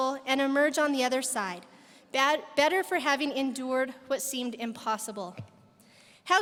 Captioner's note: none